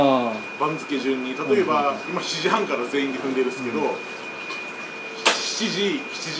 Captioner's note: stomping